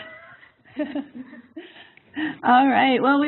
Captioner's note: laughter